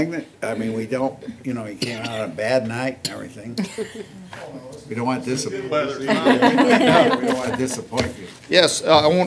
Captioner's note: laughter